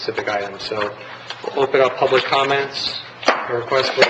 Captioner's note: gavel strike